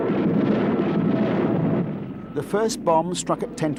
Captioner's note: bombs exploding